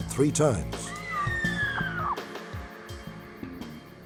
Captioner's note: screams